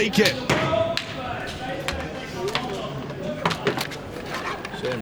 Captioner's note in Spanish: background chatter